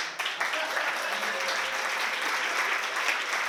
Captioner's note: applause